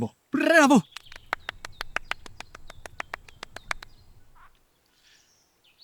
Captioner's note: applause